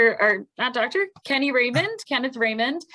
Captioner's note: laughs